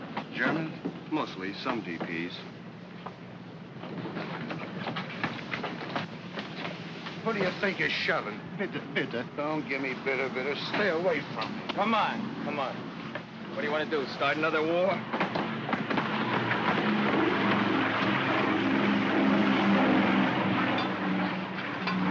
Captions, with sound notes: - Germans? - Mostly. Some GPs. - Who do you think you're shoving? (man speaks in German) Don't give me that. Stay away from me! - Come on, come on. What do you want to do, start another war? (aircraft rumbles)